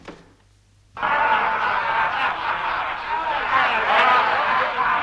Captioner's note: men jeering